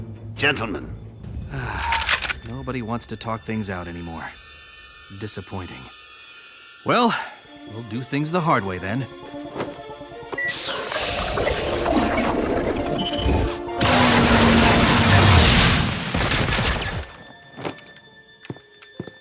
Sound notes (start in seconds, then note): 1.5 sighs; 10.5 liquid gurgling; 15.7 gunfire